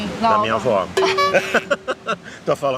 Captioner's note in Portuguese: risos